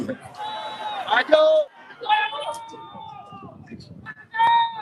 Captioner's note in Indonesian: berteriak